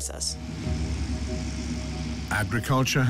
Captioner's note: working harvester